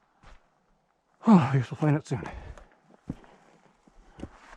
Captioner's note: sigh